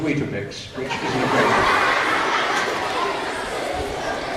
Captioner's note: laughter